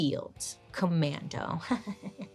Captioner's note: giggles